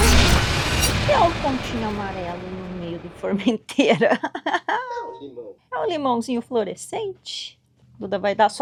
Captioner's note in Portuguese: risadas